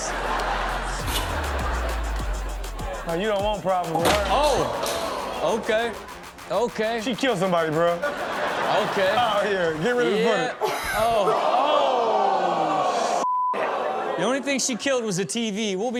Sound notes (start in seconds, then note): 0.2 audience laughs; 0.2 upbeat music; 8.3 audience laughing; 10.5 chuckles